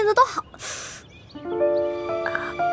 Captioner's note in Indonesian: Menghela napas